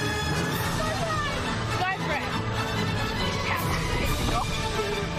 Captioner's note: shouts